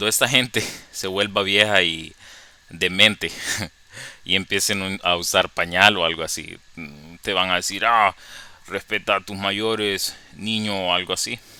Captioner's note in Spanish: con voz de viejito